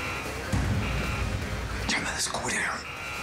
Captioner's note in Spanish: sonido de alarma